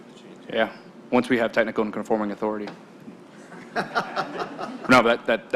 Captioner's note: laughter